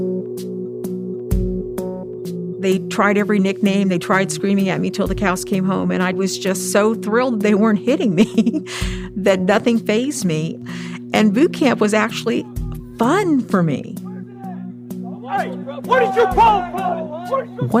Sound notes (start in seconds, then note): 0.2 soft music; 8.2 chuckles